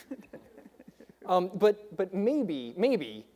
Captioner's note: debaters laughing